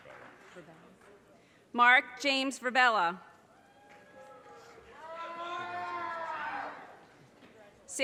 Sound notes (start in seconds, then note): 3.6 audience cheers and applause